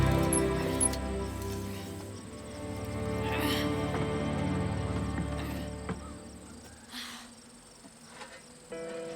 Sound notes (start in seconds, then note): 2.6 groans